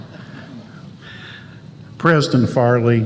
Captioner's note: laughter